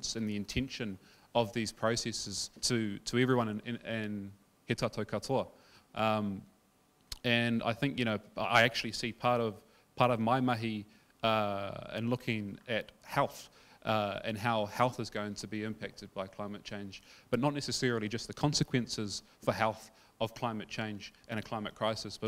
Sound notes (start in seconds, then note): 4.0 speaking in foreign language